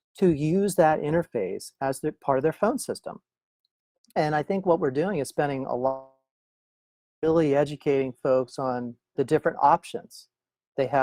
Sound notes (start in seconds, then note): 6.1 audio disconnects